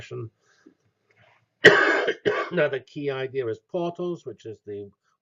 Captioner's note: cough